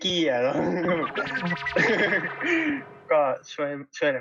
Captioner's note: laughs